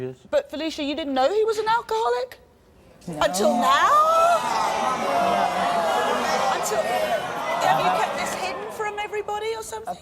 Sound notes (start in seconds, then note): 3.2 audience shouting